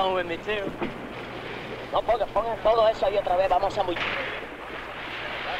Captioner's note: men speaking in Spanish